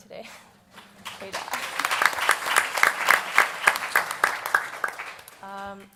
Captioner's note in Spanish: Aplausos